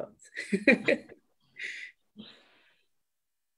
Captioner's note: laughs